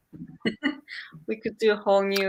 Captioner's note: laughs